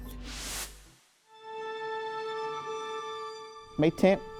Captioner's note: transition whooshes